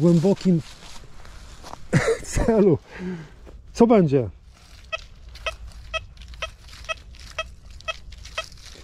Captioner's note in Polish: śmiech